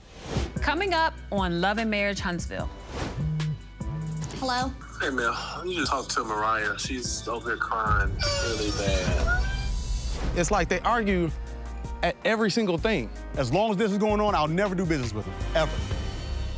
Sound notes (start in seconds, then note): 2.8 cell phone vibrating; 8.1 baby crying